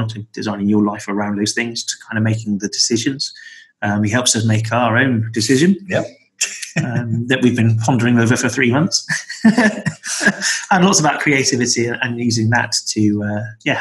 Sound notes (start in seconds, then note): 6.4 laughs; 9.0 laughter